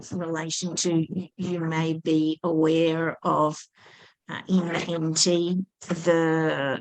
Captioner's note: muffled microphone